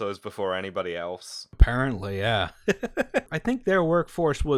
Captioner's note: laughter